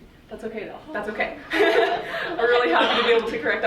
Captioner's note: laughing